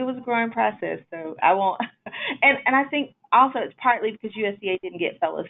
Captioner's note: laughs